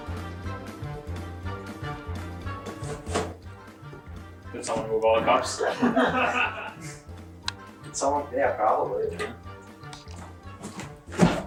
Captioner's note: audience laughter